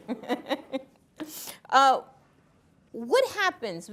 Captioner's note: interviewer chuckling